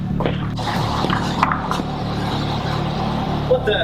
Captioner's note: brooding music; wind howling